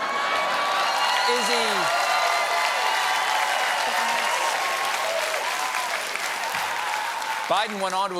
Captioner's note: cheers and applause